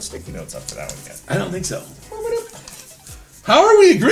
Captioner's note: babbles